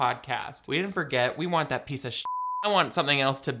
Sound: beeps

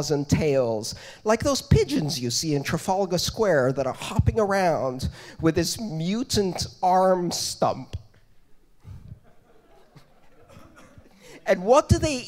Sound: laughter

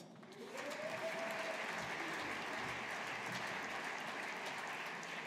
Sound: audience applauding

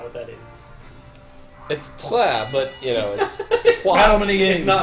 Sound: laughs

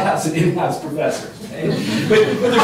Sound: laughter

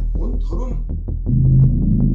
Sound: voice fades

